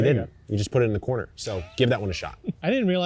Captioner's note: chuckling